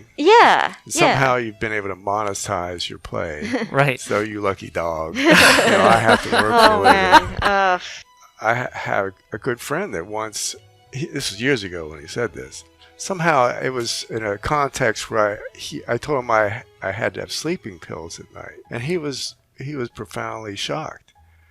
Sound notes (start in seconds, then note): 5.2 laughing